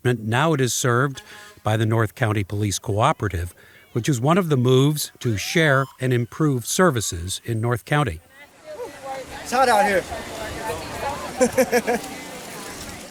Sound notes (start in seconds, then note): 7.9 people chattering; 10.0 laughs